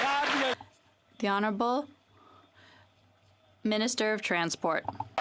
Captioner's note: some Applause